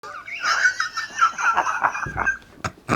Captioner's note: laughing